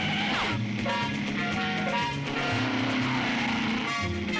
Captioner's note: engine revving